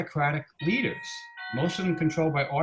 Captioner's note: doorbell rings